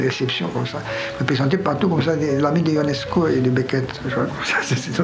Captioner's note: laughs